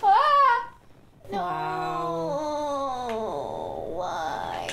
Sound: groan

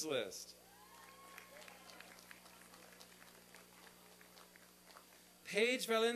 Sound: applause and cheering

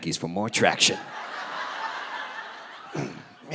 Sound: audience laughing

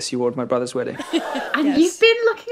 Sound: shocked gasp

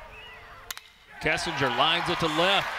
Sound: ball hitting bat

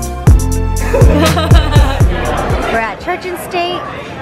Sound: laughs

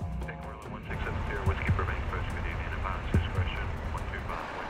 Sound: radio chatter

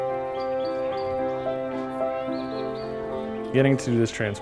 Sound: birds chirping; melancholy piano music

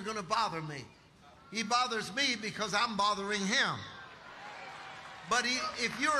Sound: audience applauding

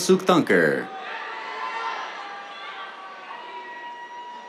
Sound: cheers

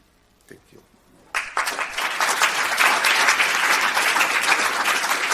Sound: audience applauding

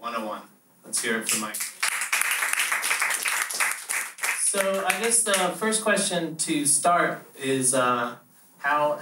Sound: applause

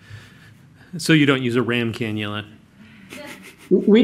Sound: laughs

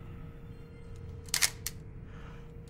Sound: shutter sounds

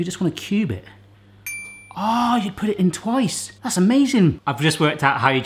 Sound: ping noise

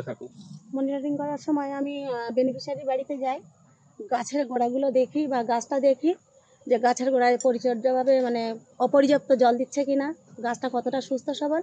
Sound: asks in Bengali; responds in Bengali

